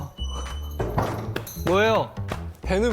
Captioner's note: thump